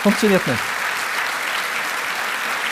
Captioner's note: applause